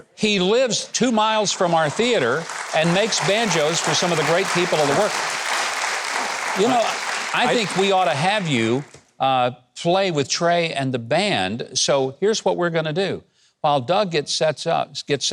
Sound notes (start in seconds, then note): 2.3 audience applauding